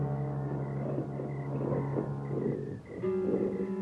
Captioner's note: ominous music; growling